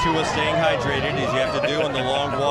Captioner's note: cheering